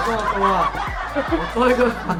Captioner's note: laughs